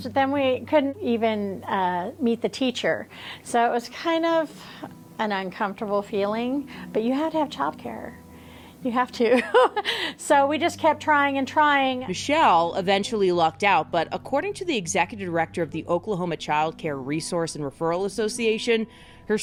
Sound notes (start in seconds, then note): 9.3 laughing